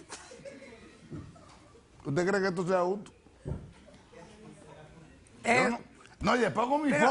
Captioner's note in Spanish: Risas